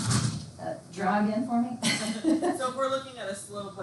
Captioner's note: laughs